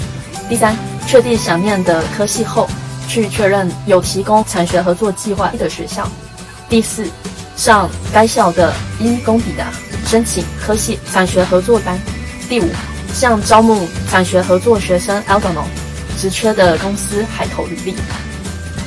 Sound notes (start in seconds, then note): 17.9 in french